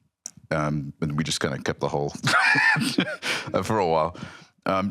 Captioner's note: laughs